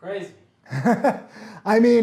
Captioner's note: laughs